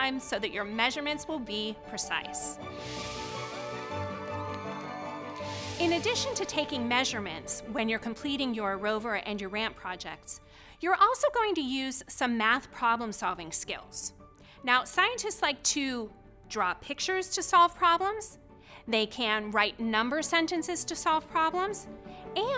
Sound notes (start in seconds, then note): 3.8 children cheering